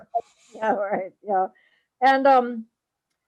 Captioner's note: laugh